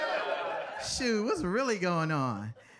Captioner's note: audience laughing